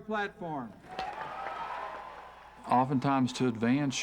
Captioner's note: applause